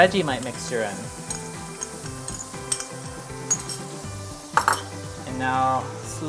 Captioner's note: spoon clinking against glass bowl